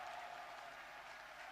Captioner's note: applause